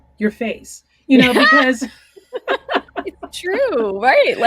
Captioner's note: laughing